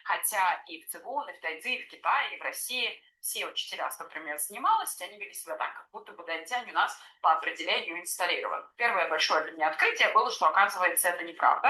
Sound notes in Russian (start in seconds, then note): none